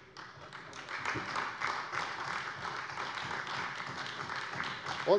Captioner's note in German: Beifall bei der CDU